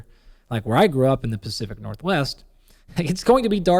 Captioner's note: laughs